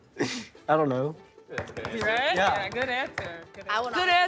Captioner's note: tapping table